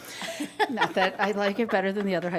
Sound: laughing

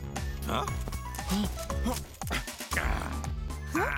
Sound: groaning

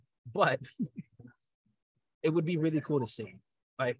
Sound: laughter

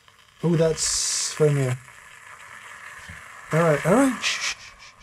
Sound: pot rumbles

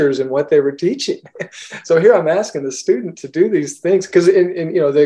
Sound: laughs

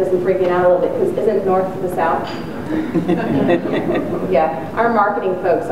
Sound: audience chuckles

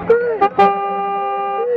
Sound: bicycle: toot toot

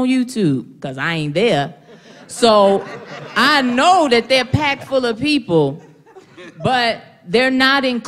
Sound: laughter

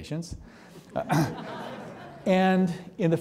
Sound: audience laughing

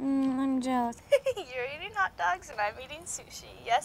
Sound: laughs

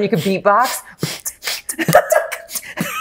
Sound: beatboxing; laughs

